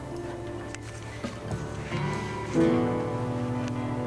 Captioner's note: sighs